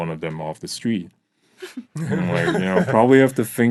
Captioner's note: laughing